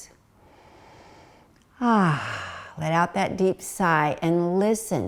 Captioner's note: breathes deeply